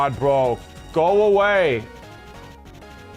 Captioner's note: shouting